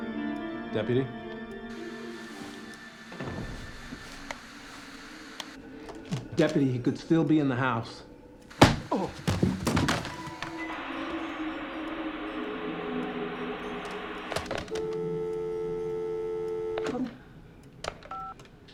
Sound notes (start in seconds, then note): 8.2 deputy groans; 8.6 thud; 10.1 static; 13.7 line disconnects